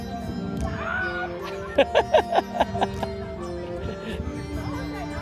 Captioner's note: screaming